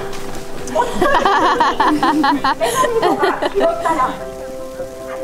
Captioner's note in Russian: смеётся